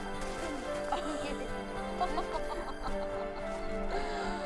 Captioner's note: laughs